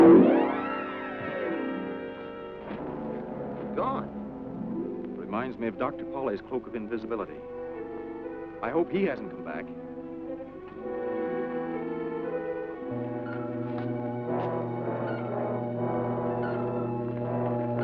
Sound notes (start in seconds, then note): 10.8 tense music; 13.4 alert chirping